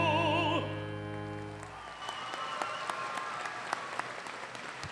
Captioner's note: audience applauding